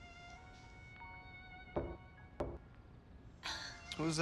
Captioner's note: soft radio music; knocking